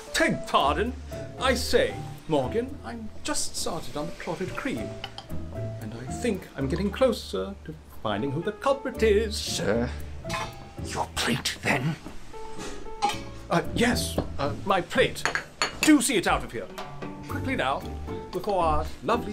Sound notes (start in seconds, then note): 5.9 sotto voce